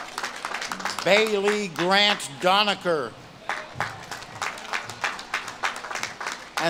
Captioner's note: audience claps and cheers